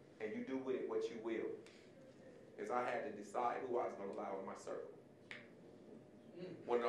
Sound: none

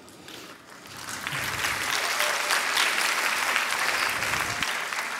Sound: applause

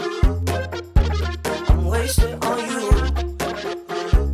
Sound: hoo hoo

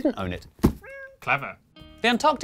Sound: miaow!

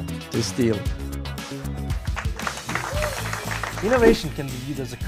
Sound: applause

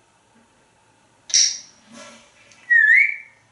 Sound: whistle

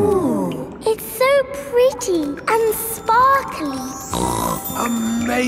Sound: snorts

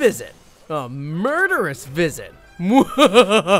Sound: laughs

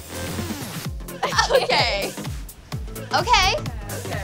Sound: girls laugh

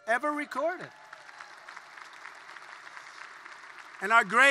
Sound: applause

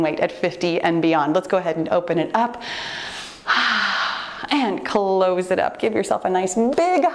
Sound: loud exhale

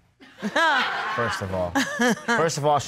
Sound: chuckles

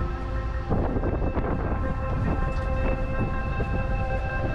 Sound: wind

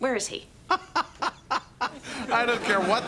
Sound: <i>laughing

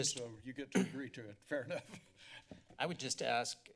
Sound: giggles

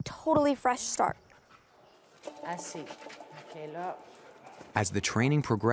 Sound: speaking French

